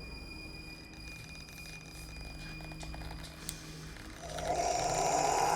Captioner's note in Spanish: timbre agudo; huesos crujiendo; gruñido de cadáver